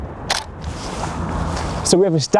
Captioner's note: snapping